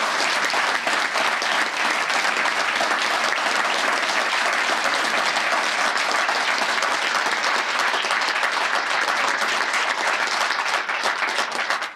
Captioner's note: applause